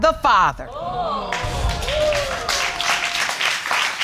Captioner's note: audience exclaiming and applauding